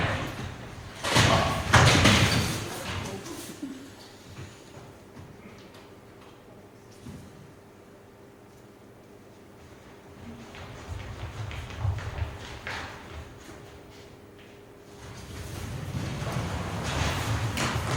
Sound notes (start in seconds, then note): 0.9 doors shutting